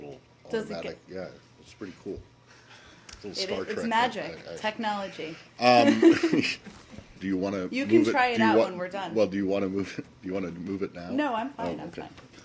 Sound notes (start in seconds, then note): 5.8 laughter